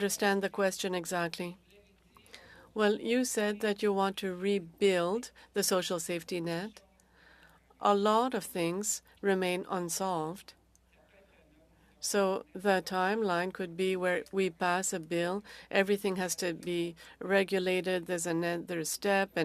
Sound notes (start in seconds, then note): 9.5 speaking french